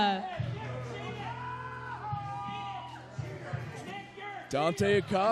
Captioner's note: crowd cheers and boos